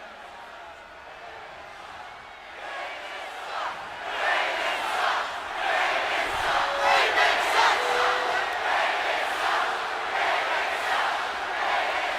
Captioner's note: crowd cheering